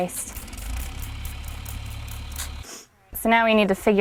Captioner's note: spritzing